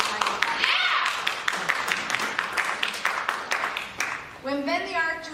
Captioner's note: applause